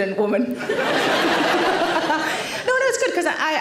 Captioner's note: audience laughter